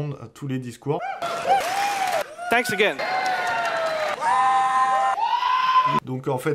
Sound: more screaming

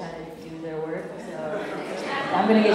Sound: laughter

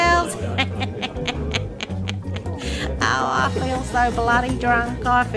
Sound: laughs

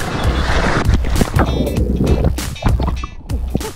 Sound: splashing

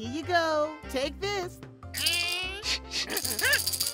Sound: rattles; sniffs; rattling

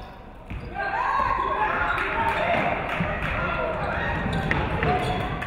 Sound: audience cheering

